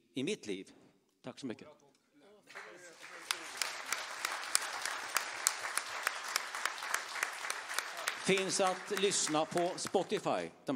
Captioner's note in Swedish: applåder